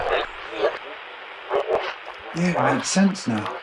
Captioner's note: none